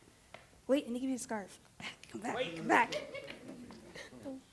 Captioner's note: laughter